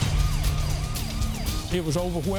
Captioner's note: gunshot booming; police sirens ringing